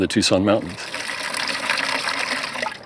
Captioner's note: water splatters